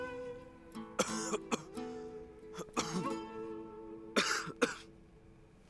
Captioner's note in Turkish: Öksürme sesi